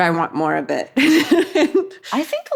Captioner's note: Katie laughs